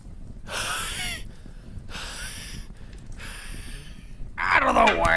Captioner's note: wheezing